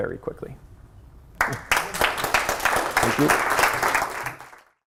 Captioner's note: applause